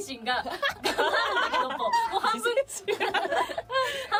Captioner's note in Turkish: kahkaha